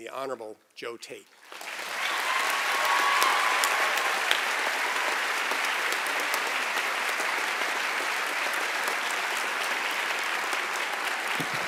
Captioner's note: applause and Cheering